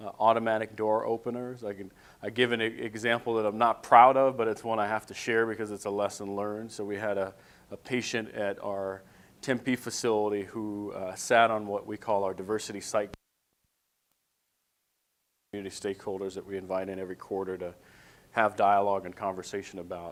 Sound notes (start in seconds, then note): 14.1 audio cuts out